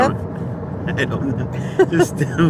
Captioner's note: giggling